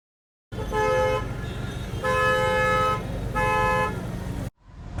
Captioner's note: traffic noise